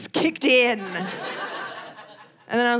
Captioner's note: audience laughing